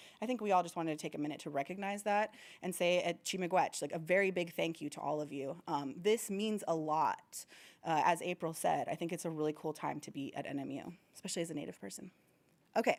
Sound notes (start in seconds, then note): 2.6 speaking foreign language